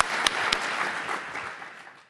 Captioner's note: applause